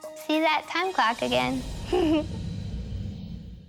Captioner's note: laughs